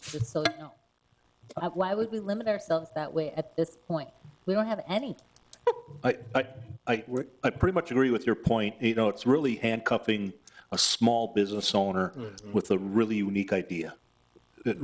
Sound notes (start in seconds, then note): 6.0 chuckling